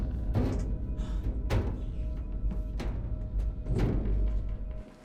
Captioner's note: eerie music; elevator top thudding